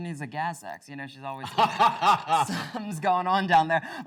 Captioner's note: laughs